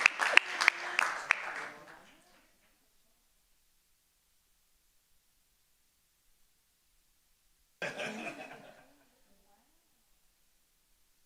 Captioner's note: applause